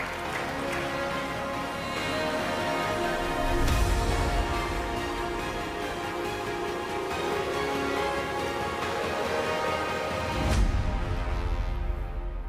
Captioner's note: applause